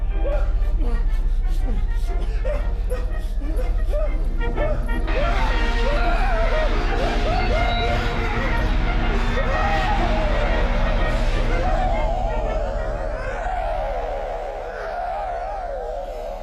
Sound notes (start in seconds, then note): 3.8 victim groaning; 4.7 loud 1920's music; 13.2 soft eerie music